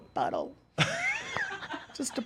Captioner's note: laughs